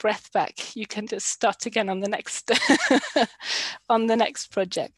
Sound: laughs

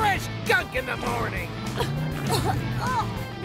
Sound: coughing and gagging

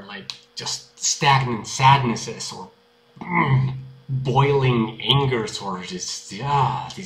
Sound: urgh

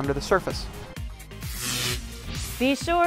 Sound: sound Effects

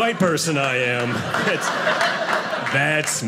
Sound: audience laughing

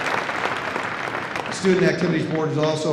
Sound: applause

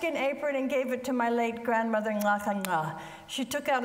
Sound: speaks foreign language

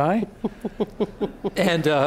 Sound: laughing

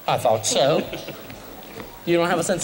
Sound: laughter

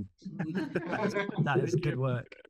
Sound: audience laughing

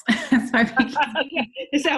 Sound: laughs

